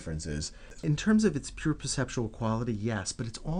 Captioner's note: voiceover